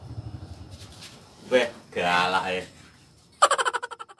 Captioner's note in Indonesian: tertawa